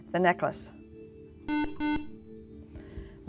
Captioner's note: beeping